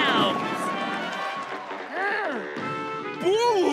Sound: grunting

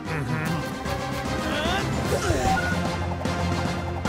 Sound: grunting, beeping

